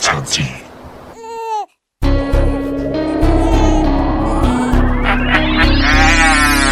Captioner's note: baby crying; tense music; man laughing